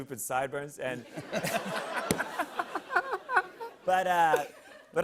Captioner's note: laughter